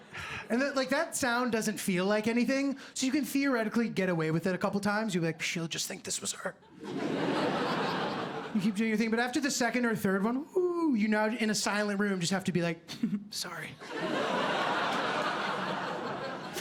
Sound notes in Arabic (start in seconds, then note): 12.8 ضحكة خافتة; 13.9 ضحك